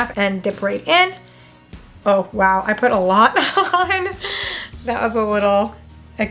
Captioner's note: laughs